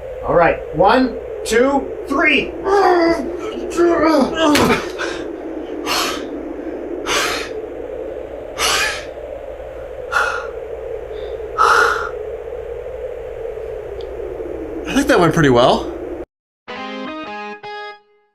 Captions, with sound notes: Alright. One... Two... Three! (deep breathing) I think that went pretty well.